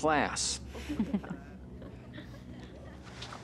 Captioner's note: chuckling